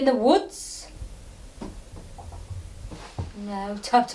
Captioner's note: gentle tapping